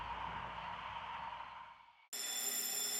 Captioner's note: bell ringing